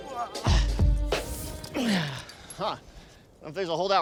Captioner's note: grunting